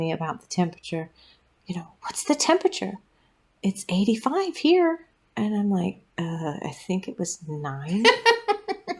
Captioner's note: laugh